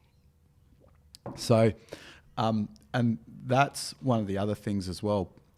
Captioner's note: glass tapping